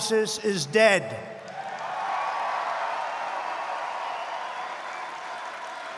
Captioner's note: applause